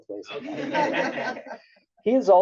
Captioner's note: laughs